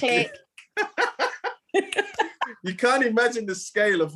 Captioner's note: laughing